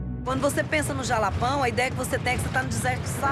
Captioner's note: Portuguese spoken audio